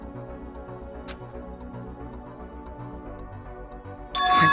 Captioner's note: sigh